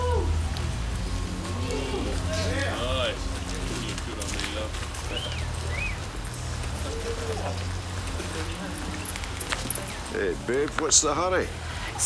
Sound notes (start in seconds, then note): 1.4 men catcalling; 5.1 man whistling